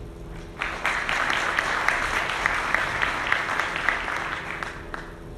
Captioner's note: audience clapping